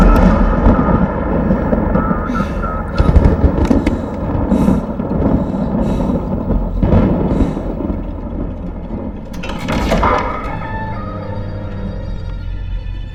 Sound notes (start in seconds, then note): 2.2 panting